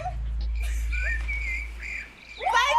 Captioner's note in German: Grillenzirpen